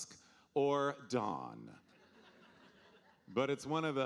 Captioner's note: audience laughing